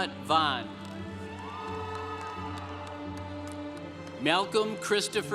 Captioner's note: congregation cheering